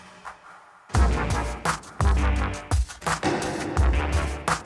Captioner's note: arrows striking target